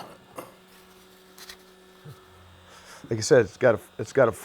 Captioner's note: machine hums